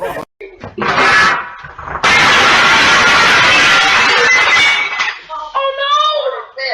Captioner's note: glass shattering sounds